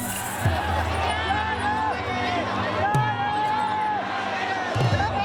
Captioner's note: shouting and cheering